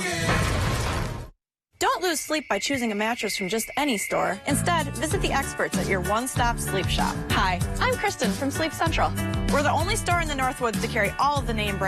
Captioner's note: SFX: "Built Ford Tough" Slam